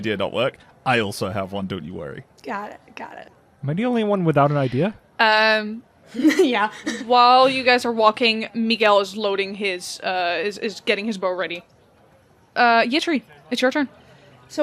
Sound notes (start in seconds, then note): 6.2 chuckles; 6.2 chuckling